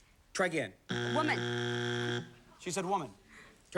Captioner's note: buzzer